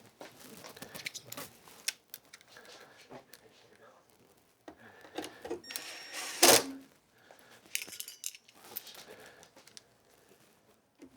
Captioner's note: silence